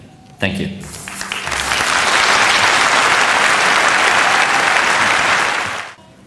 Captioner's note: applause